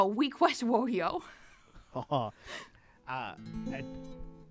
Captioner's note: both laugh